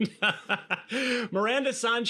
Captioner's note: laughing